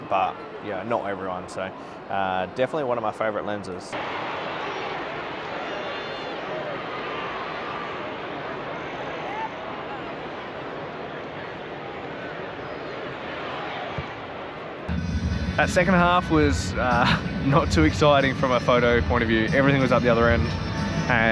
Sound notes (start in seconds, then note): 15.0 upbeat music; 16.8 chuckles